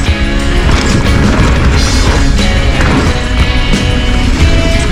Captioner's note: bike rattles; tires crush gravel